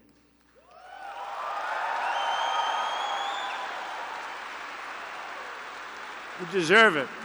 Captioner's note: applause